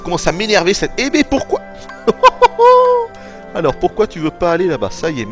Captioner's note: laughs